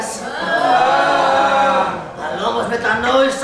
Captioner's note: κραυγές απελπισίας